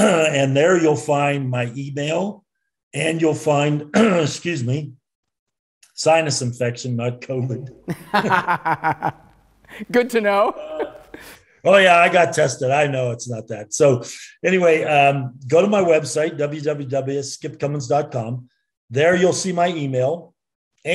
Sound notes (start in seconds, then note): 3.9 coughs; 7.9 laughs